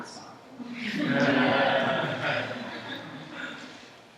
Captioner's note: laughter